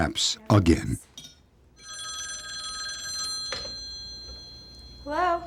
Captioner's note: ringing